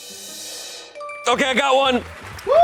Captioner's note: drum roll hisses; bell chimes